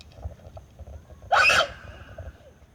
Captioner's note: scream